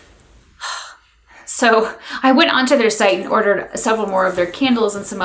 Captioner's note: exhales